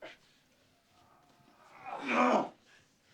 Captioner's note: groaning